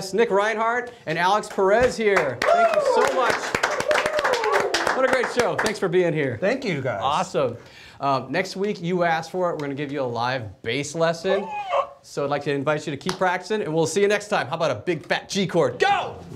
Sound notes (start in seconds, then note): 2.2 studio claps and cheers